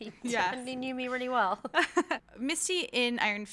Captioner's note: laughter